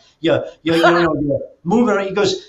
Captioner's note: laughs